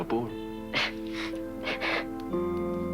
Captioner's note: Rires